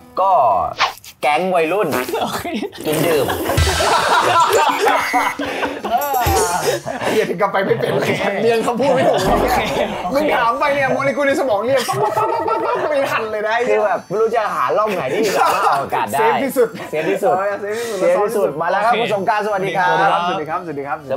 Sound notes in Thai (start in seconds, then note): 2.1 หัวเราะ